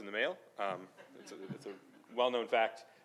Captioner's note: laughing